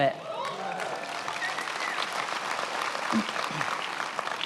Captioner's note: attendees applauding